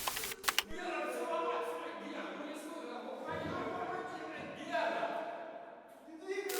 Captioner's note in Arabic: أصوات تصرخ بلغة أجنبية